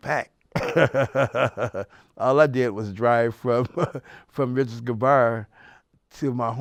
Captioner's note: laughs